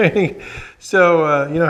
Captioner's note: chuckles